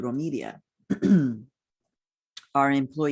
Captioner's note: clears throat